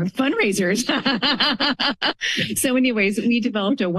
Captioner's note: laughter